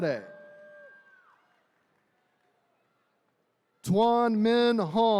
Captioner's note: attendees cheering